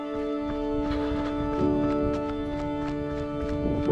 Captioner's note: footsteps